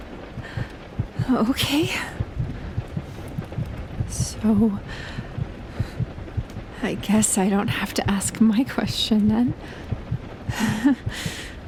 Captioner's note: she sighs